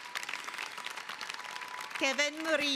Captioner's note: applause